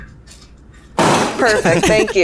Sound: chair slam

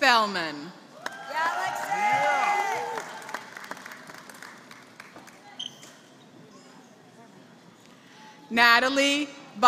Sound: applause; applause

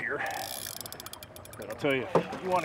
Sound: reel cranking

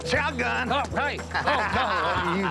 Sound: laughs

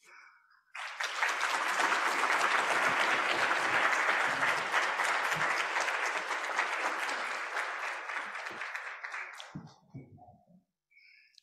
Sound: applause

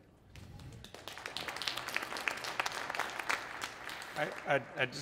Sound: audience applauds

